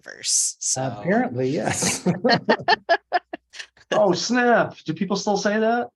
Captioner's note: laughter